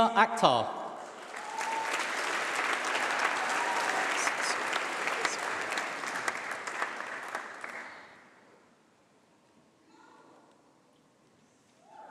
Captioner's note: applause